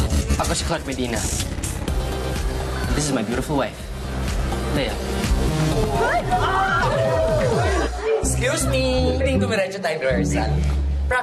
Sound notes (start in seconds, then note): 0.0 upbeat music continues; 5.6 tenants cheering